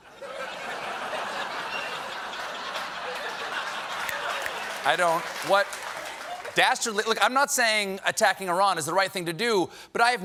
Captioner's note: laughter